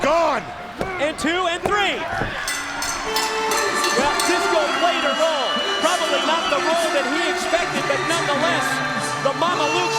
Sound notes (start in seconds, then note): 2.4 bell ringing; 4.7 crowd cheering